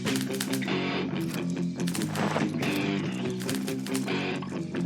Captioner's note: typewriter clicking